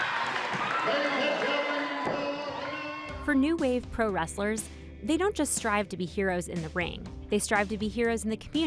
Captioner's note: cheers